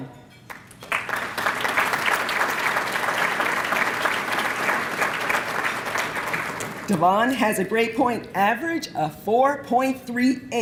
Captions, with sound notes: (applause) Davon has a grade point average of 4.38.